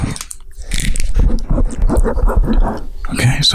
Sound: whispering; rustling and scratching sounds

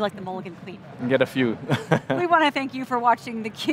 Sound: chuckles

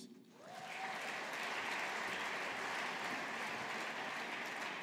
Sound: audience applauding

